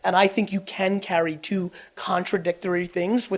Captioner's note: none